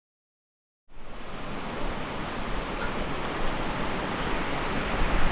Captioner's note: wind whistling